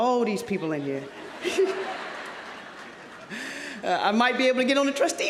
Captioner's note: audience laughing